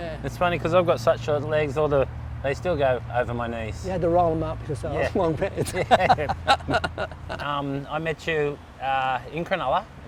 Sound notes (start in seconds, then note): 5.0 laughs